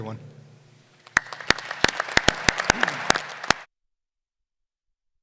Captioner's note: applause